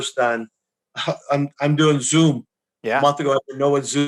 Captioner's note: chuckles